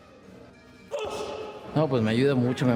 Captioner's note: gruñe